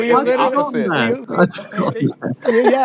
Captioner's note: chuckles